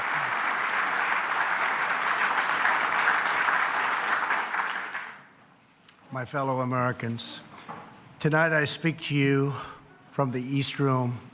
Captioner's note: applause